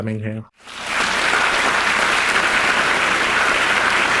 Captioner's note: audience applauding